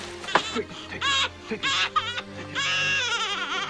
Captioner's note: baby cries